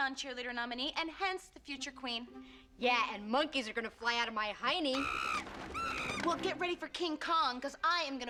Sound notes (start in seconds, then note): 5.0 nkmoey hooting